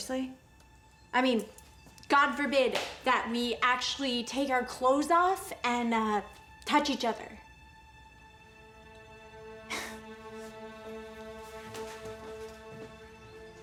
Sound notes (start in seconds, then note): 9.6 laughs